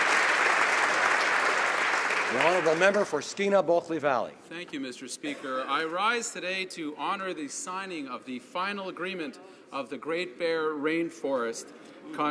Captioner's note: applause